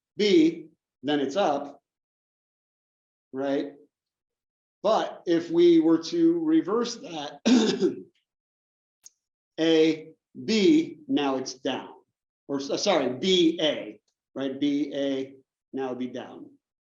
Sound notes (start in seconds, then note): 7.4 cough